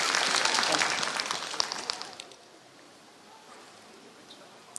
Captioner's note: applause